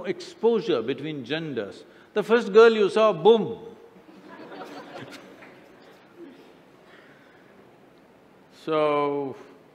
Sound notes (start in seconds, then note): 6.8 laughter